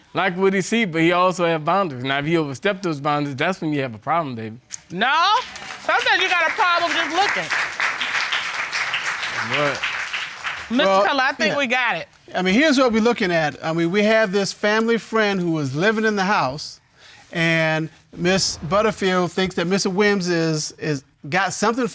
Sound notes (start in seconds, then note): 8.8 audience clapping